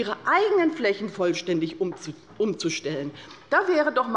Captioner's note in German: none